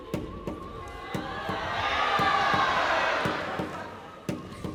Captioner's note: crowd cheering; bouncy music